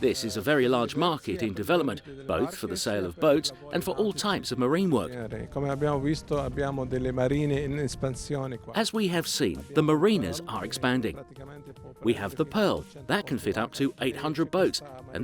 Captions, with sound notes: This is a very large market in development, both for the sale of boats, and for all types of marine work. (speaks in foreign language) As we have seen, the marinas are expanding. We have the Pearl, that can fit up to 800 boats,